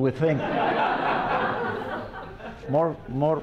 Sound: laughter

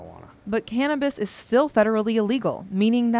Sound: voiceover

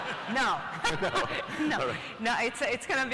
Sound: laughs

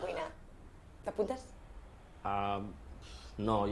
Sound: stutters

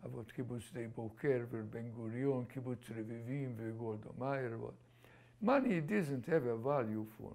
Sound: non-english

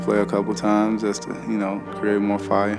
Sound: voiceover

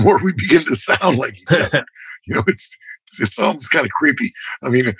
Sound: laughter

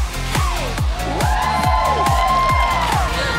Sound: cheering; upbeat music

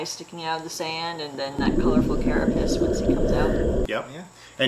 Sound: ocean whistling gently

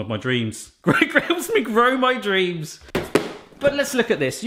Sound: laughs

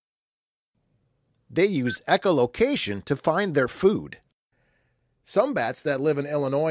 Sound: beep

